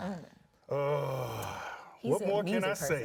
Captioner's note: groans